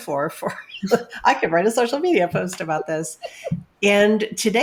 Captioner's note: laughs